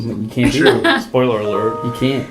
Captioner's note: laugh